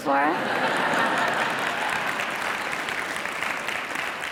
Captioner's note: audience laughing